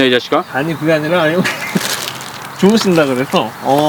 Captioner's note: laughs